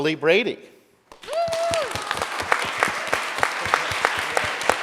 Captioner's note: audience applauding